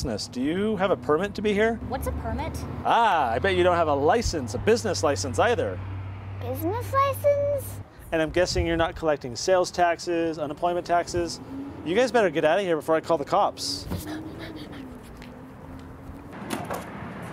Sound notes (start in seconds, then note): 13.9 boy panting